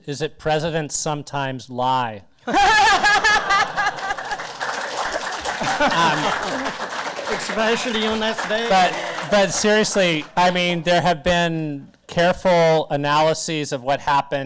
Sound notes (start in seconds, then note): 2.4 panelists, audience laughter, applause